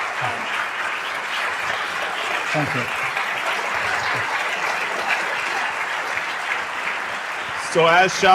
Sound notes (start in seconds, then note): 4.0 applause